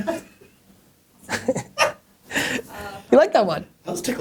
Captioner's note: laughter